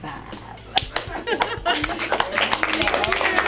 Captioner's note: clapping